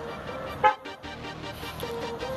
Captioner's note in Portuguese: buzina